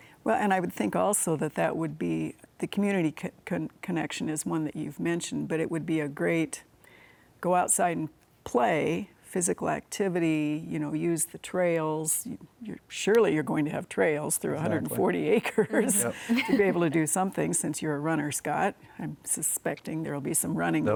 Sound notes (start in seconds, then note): 15.5 laughs